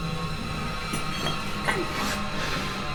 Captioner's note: door creaks open